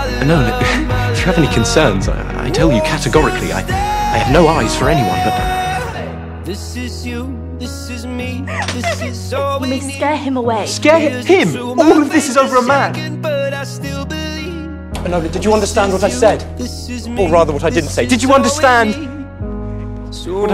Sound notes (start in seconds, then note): 8.1 sobbing